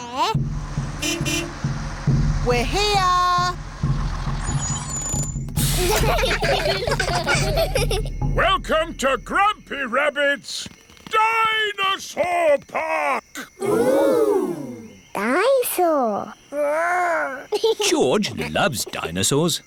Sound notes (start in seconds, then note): 0.3 horn beeps; 5.6 children giggling; 18.2 giggles